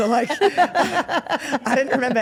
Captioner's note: Steph and Elyse laugh